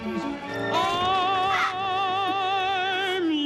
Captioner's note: gasps